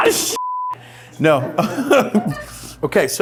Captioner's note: laughs